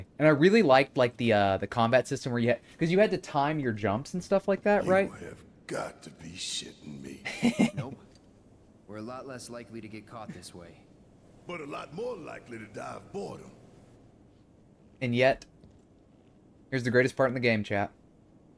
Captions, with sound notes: And I really liked the combat system where you had-- because you had to time your jumps and stuff like that, right? You have got to be shitting me. [LAUGHS] And yet, here's the greatest part in the game, chat.